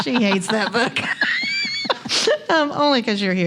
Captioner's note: laughs